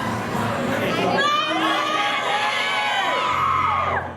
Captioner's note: crowd